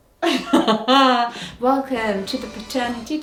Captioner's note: laughs